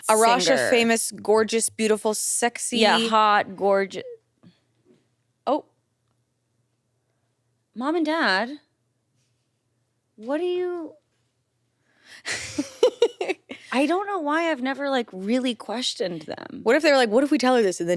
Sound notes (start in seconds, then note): 12.2 chuckles